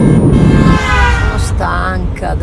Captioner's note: despotic sound; sound of a horn